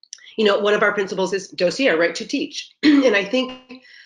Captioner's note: murmurs